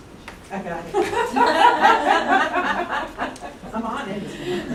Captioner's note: laughter